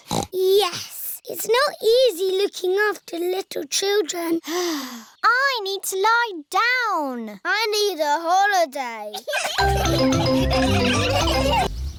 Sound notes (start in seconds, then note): 4.8 sighs; 9.2 all laughing